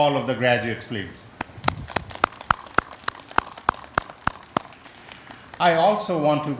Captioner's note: applause